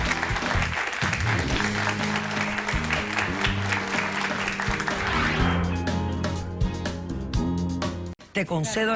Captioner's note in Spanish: aplausos